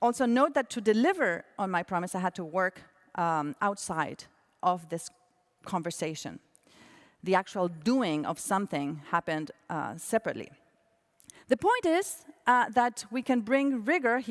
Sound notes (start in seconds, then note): none